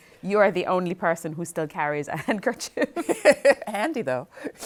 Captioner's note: laughing